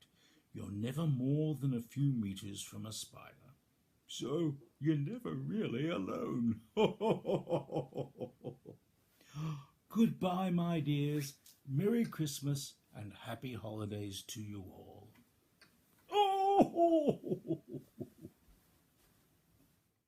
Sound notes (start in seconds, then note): 6.7 happy chunkle; 16.1 loud arthritic grunt